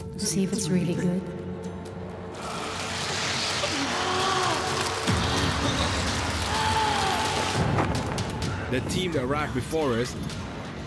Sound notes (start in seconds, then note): 2.3 scary sounds; 4.1 sighs and faint screams